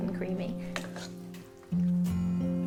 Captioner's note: pan scratching; soft music